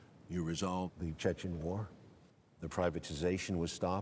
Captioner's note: Stone speaking